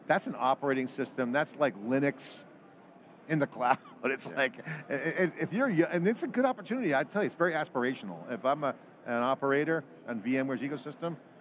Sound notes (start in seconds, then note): 3.7 chuckling